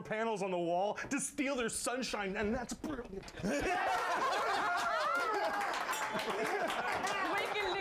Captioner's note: laughter; bell rings; applause